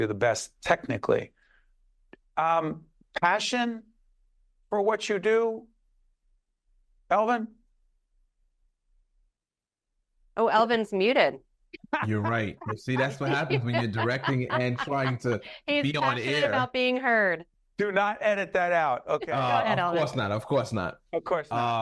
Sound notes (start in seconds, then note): 11.8 laughing